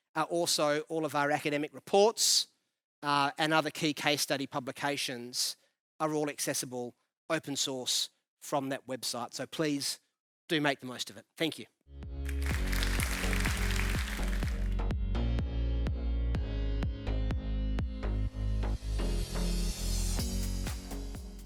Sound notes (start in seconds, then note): 12.2 audience applauds; 14.2 upbeat music